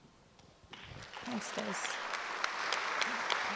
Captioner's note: audience applauds